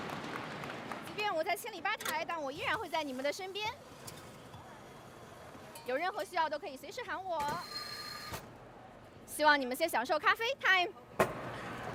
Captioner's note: cheers and applause